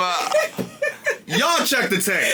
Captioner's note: laughing